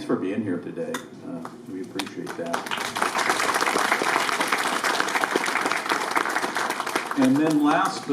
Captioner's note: applause